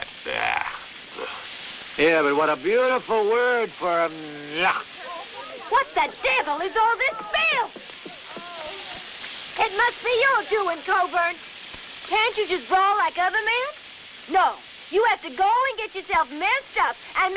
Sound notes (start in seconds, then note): 0.2 blech; 3.7 blech